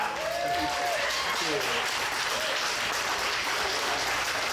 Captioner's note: audience applauds